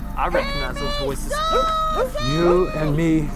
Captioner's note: Amy barking